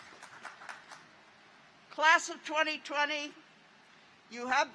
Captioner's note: applause